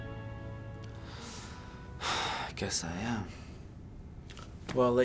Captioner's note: sigh